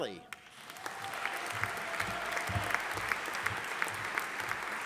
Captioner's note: audience applauding